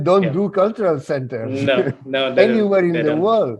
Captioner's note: laughs